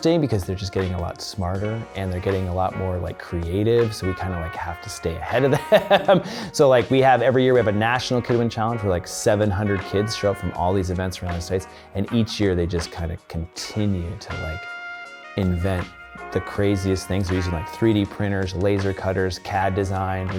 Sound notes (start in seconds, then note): 5.3 laughs